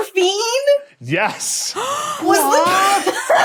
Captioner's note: gasps; laughs